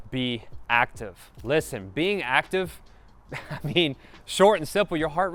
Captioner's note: chuckles